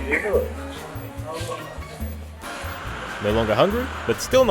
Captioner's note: cafe noises